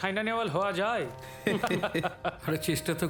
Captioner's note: laughter